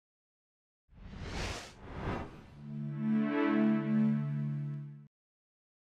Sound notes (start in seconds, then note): 1.0 swoosh; 3.1 powering up sound